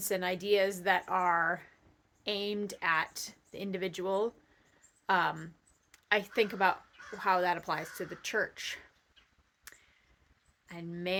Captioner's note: crows cawing